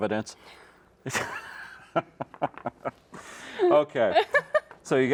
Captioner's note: laughs